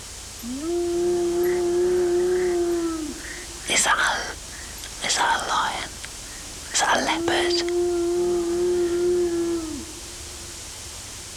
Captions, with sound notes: (SUSTAINED YOWL) Is that a...? Is that a lion? Is that a leopard? (YOWLING CONTINUES)